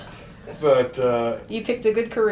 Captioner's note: laughter